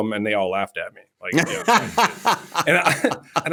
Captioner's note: laughter